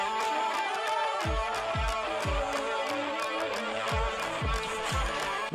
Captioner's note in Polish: Aplauz